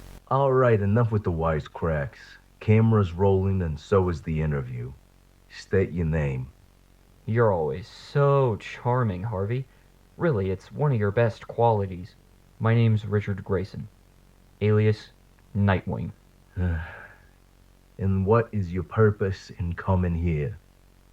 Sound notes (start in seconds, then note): 0.0 Static; 8.0 sardonically; 16.6 BULLOCK sighs